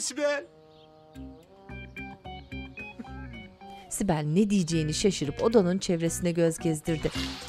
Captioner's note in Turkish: Ağlama sesi